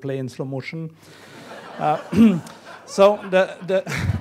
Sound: laughing

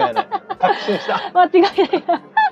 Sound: laughs

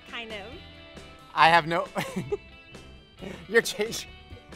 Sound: laughs

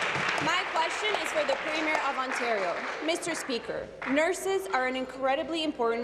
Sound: applause

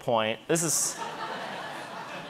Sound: audience laughing

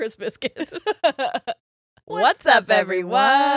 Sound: both laughing

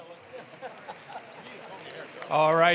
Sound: attendees applauding

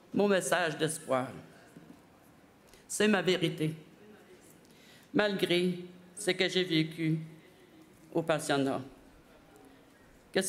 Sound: speaking French

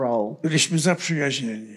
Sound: foreign language

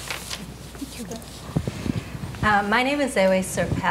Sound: speaking faintly

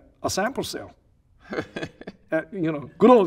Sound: laughing

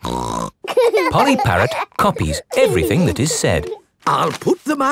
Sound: laughing

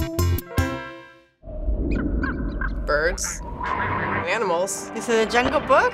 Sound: quirky interlude; animals squeak and quack

